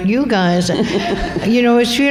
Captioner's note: laughter